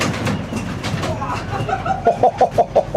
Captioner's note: laugh